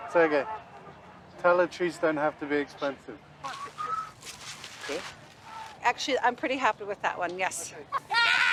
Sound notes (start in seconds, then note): 3.4 whistles raspily